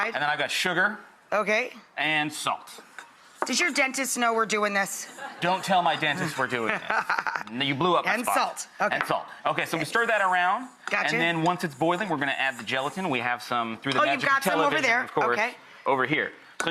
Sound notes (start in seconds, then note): 6.6 Rachael laughs